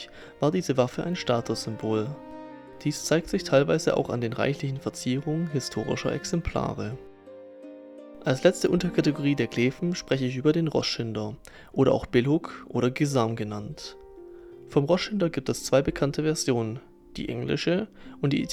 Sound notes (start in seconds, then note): 13.0 German